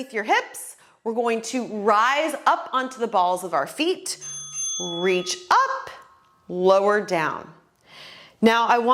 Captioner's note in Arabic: قرعات الجرس